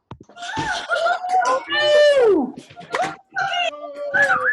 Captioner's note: attendees cheering